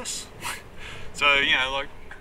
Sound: laughs

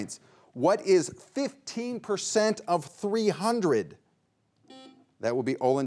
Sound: buzzer beeps once

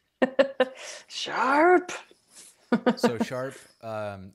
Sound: laughs; laughs

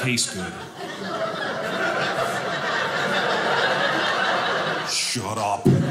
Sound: audience laughing

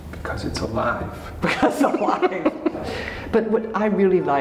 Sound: laughing

